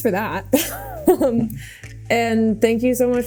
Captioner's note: Mikaela laughing